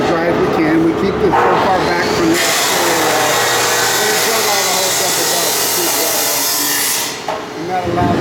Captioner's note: saw noise